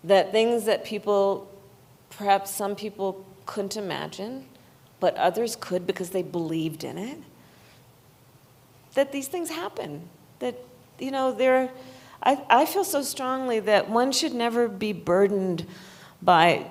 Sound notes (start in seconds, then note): none